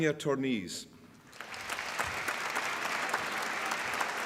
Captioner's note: applause